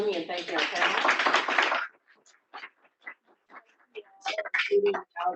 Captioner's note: applause